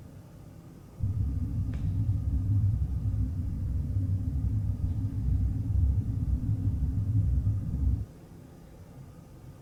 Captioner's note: heavy eerie noise